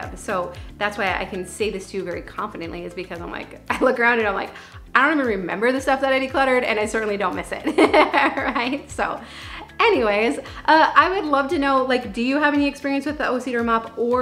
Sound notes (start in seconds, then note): 7.7 laughs